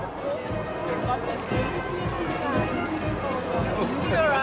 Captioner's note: people chattering